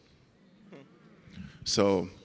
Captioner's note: audience moaning